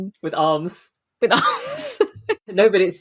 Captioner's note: laughing